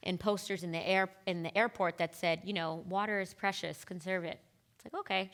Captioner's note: none